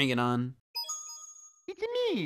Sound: game beeps

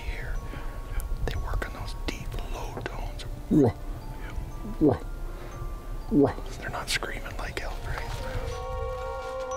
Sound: eerUGH, eerUGH

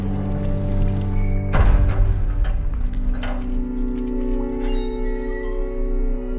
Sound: gates creaking

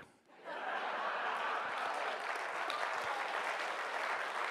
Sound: audience applauding

